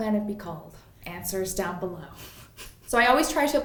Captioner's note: laughs softly